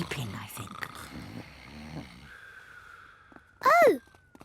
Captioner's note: snoring